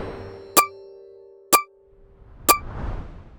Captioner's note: timer beeping